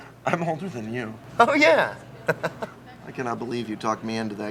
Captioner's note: chuckles